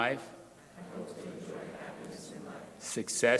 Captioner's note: crowd repeating